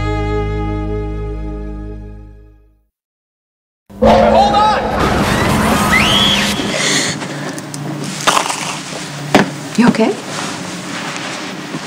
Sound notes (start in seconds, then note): 4.0 glass breaking and screaming